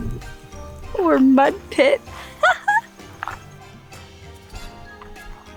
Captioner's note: laughs